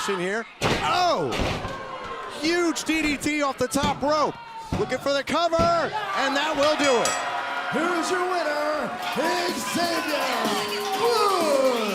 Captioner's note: crowd chatter